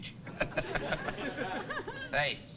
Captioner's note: chuckles